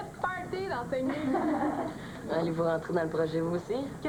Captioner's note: Rires